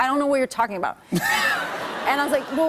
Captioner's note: laughter